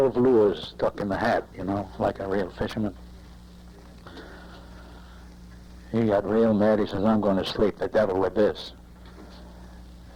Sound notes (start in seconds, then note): none